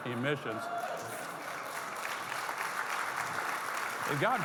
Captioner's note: audience clapping